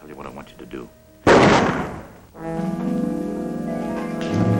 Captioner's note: gun shot